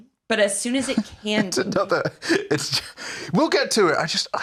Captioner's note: laughing